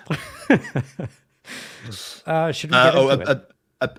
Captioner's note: laughing